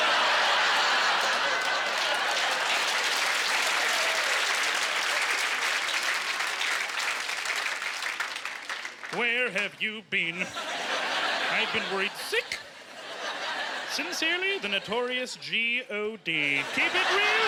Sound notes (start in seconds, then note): 3.1 laughing; 7.2 clapping